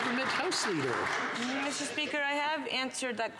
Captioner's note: some Applause